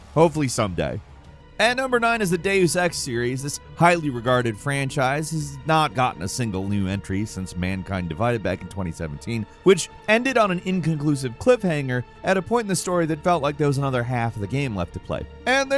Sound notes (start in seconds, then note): none